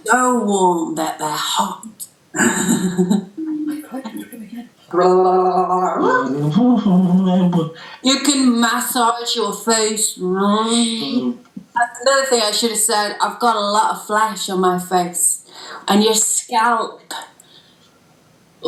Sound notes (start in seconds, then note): 2.4 laughs; 4.9 'Lalalalala' sound with tongue